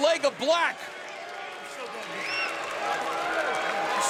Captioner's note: crowd boos